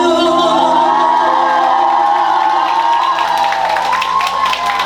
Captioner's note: screams of joy ♥